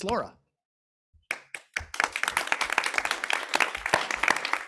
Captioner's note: people clapping